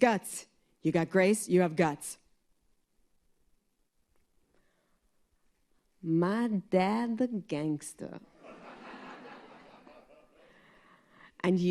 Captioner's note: laughter